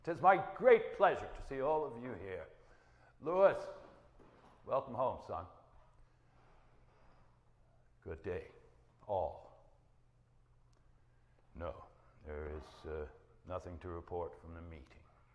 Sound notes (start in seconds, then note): none